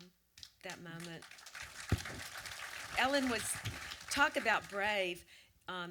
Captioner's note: audience applause